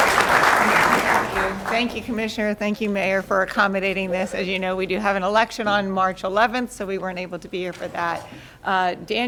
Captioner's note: applause